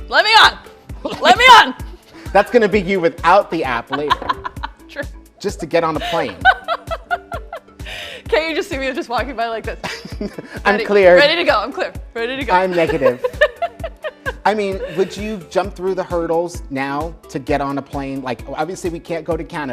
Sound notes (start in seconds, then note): 2.0 laughs; 10.3 laughs; 12.6 laughs